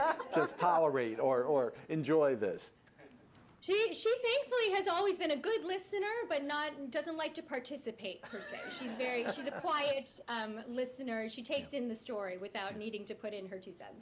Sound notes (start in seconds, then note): 8.2 laughter